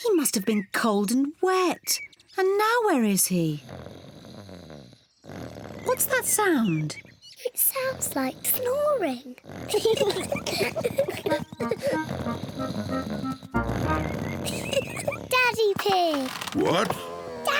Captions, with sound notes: He must have been cold and wet. And now where is he? (SNORING) What's that sound? It sounds like snoring. (BOTH LAUGH) (SNORING) (LAUGHS) Daddy Pig! What?